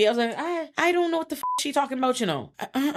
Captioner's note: beep